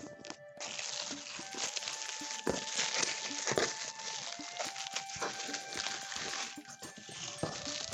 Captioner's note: plastic rustling